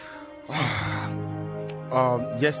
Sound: sighs

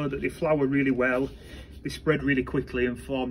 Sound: pot shuffling

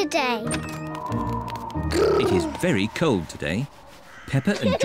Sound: wind whistles

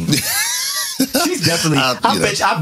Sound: laughing

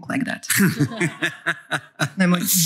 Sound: laughter

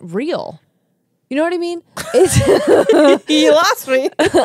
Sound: laugh

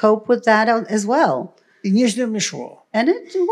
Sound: foreign language

